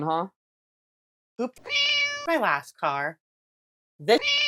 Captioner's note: meow; meow